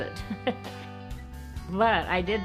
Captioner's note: laughs